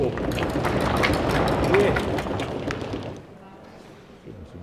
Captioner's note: cheers